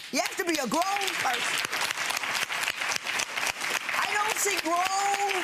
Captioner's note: spectators clapping